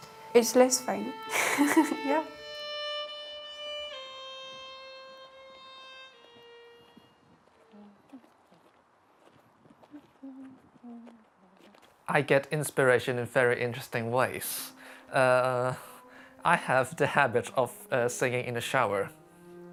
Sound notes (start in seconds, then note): 1.3 laughs; 7.6 humming